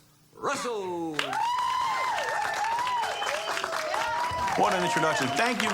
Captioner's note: audience cheering